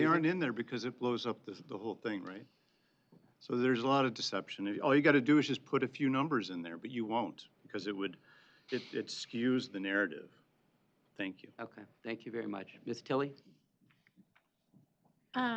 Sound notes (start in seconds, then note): none